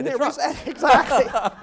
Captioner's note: laugh